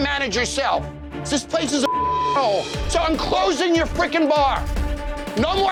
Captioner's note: beep